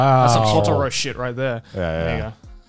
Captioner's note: speaks foreign language